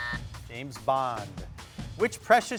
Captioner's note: buzzer sounding